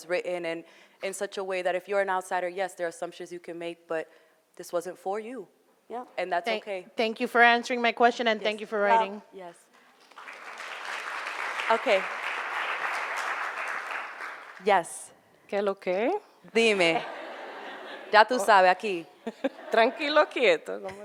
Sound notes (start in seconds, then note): 10.0 applauding; 16.1 both speaking foreign language